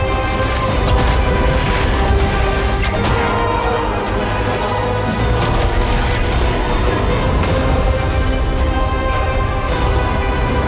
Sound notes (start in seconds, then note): 0.0 chains rattles; 0.2 dramatic music continues; 5.2 lightning crackles